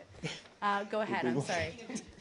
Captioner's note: laughter